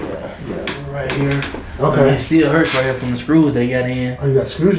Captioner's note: laughing